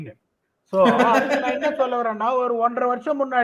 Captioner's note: laughs